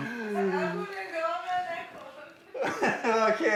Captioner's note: speaking in Farsi; people laughing